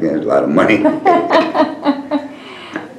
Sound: laughter

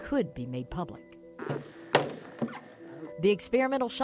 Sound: clattering

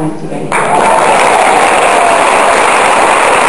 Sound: applause

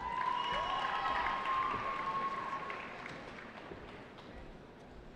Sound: cheering

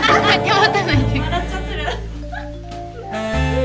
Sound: couldn't hold back her laugh LOL

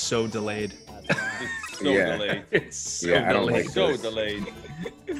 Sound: laugh

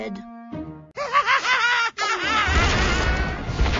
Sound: farmer laughs evilly

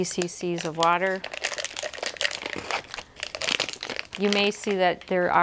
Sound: paper Crinkling

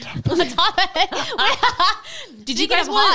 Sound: gently laughs

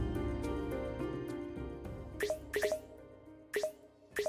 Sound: soft music; clicking

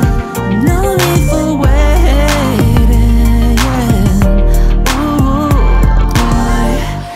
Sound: ohhhh

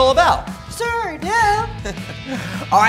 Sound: chuckles

